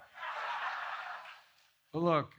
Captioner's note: laughter